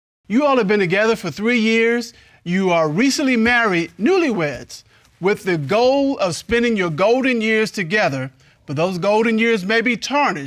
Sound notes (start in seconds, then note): none